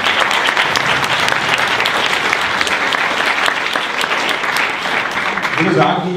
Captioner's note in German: Applaus